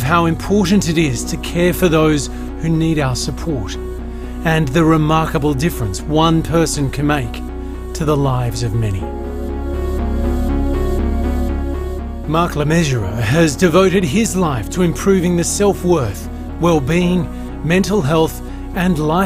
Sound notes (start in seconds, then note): none